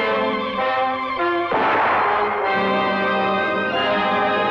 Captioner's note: gun blasting